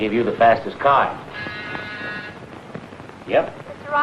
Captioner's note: buzzer blaring